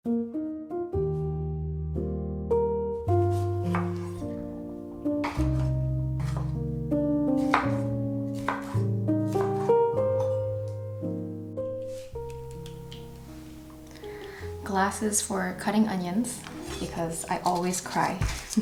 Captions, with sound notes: (gentle music) (knife tapping) Glasses for cutting onions because I always cry.